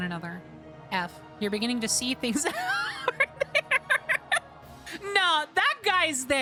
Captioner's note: laughing